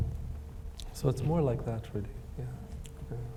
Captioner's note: none